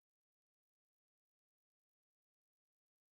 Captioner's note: none